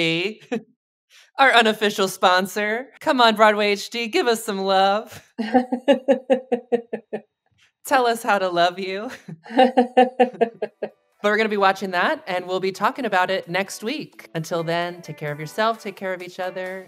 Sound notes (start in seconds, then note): 5.4 both laugh; 9.2 laughs